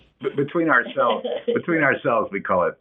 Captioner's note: laughs